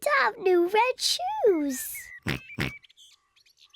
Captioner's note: oinks